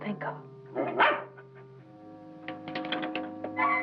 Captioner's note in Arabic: نباح الكلب